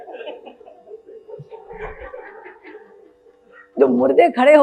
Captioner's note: audience laughs